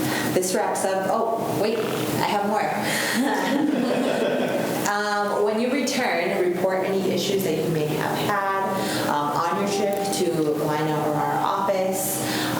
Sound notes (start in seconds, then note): 3.0 students laugh